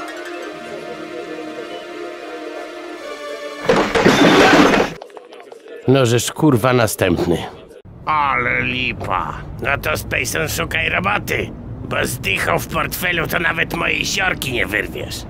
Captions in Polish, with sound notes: *trzask* No żesz kur*a następny! Ale lipa! No to Spejson szukaj roboty... ...bo z dychą w portfelu to nawet mojej siorki nie wyrwiesz